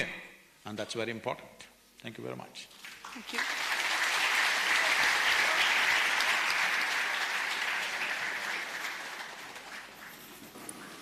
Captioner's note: applause